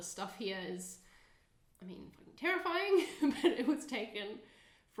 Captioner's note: chuckling